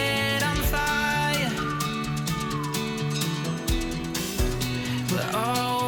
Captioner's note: whistling